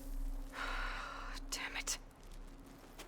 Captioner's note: sigh